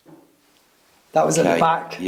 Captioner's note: table banging